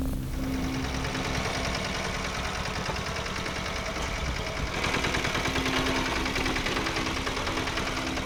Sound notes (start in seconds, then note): 0.0 tractor noise